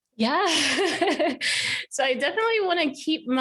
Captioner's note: laughs